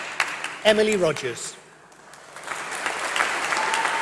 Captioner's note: applause